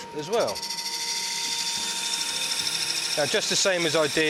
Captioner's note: machine whirring